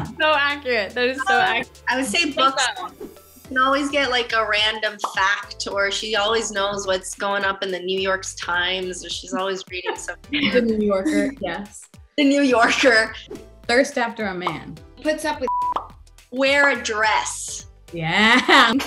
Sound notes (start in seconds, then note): 15.4 beep